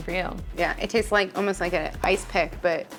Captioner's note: image popping